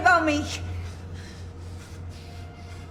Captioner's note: both panting